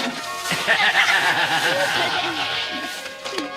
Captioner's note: Ednan laughs